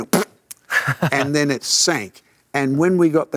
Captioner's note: laughs; makes "raspberry" sound effect